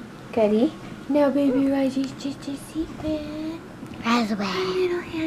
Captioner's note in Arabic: يغمغم